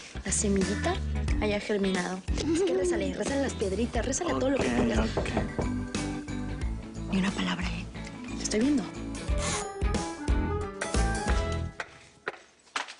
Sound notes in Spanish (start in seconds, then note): 4.5 Toques en la puerta